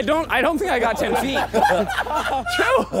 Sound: contestants laughing

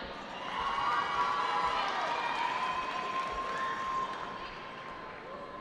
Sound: cheering

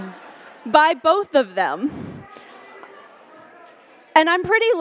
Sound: laughter

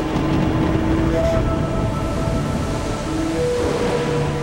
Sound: thunder rumbling

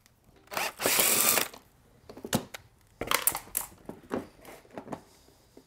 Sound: driver tool roaring continues

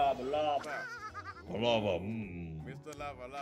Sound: laugh

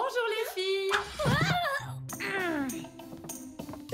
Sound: talia grunts

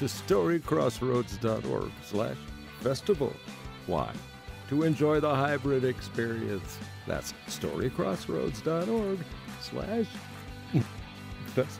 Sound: laughter

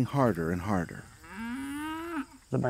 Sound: cow lows

